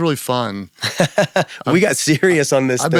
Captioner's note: laughing